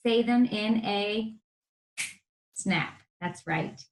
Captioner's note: finger snaps